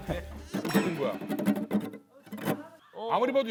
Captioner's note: explosive adlips